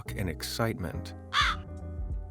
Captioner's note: crow noises